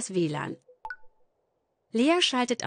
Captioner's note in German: Leises Plopp-Geräusch